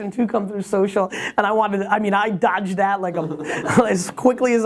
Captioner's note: laughs